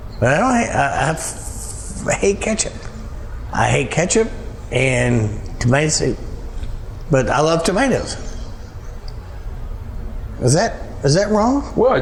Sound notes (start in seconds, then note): none